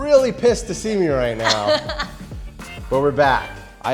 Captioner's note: laughs